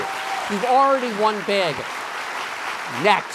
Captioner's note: applause